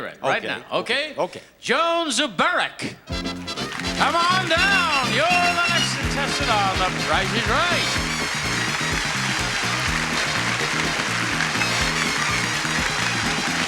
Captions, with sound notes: And you can hear it right now. Okay. Joan Suberik! Come on down! You're the next contestant on The Price is Right. (audience applauding) (cheerful music)